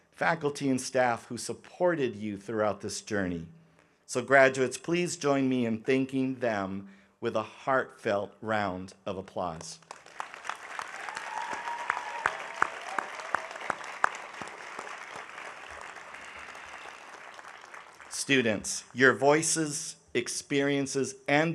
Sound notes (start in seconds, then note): 9.8 audience applauding